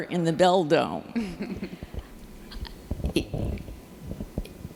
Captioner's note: chuckles